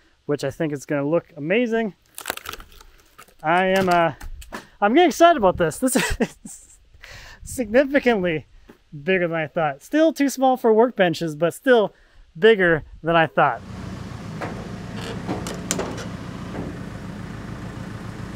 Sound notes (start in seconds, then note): 13.6 engine runs